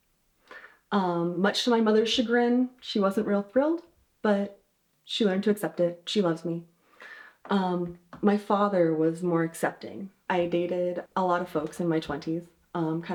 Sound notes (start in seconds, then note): none